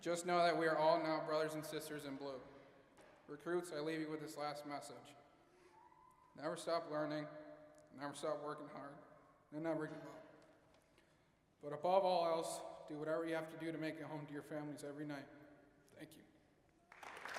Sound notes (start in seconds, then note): 9.4 voice wavering